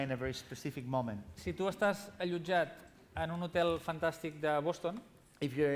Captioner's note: non-english speech